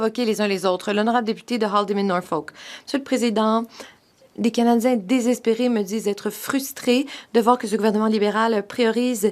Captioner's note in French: voix de l'interprète